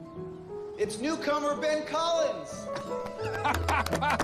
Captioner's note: laughing